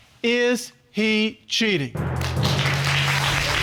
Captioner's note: audience applauding